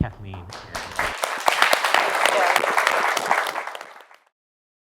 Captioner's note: applause